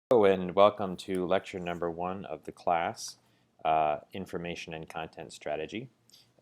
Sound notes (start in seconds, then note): 0.1 voiceover